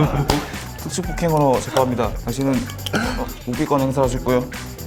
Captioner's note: is about to die of laughter